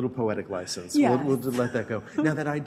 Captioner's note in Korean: 웃음